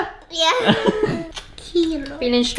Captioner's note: all laughing